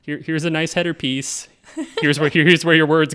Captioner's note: laughing